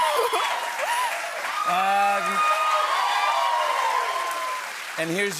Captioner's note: cheers and applause